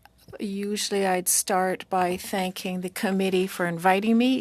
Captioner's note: speaking French